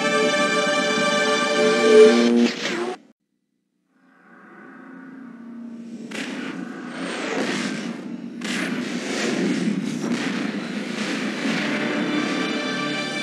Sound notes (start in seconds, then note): 1.9 mechanical sounds; 3.7 dramatic sounds; 5.7 digitized landslide sounds